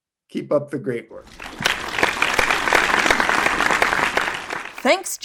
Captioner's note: audience applauds